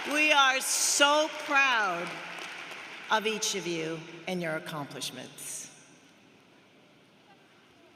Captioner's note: cheers and applause